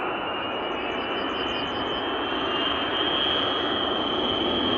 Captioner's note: the shriek of an enormous military airplane grows from the horizon; pleasant bird chirps become drowned out entirely